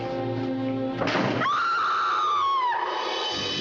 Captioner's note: Mrs. Creel screaming; intense music